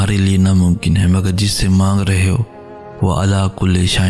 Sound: Arabic

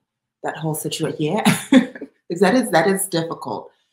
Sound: laughs

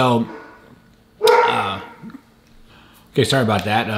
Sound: dog barks

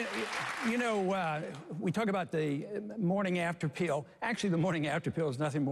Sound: applause

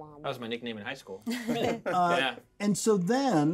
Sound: laughs

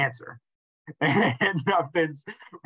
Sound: laughter

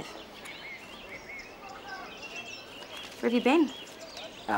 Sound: birds chirping

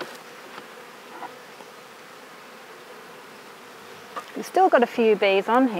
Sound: bees buzz

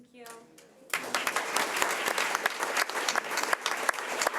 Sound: audience applauding

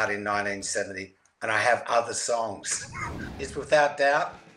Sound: laughs

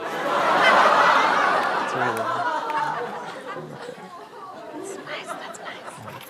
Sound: crowd groans

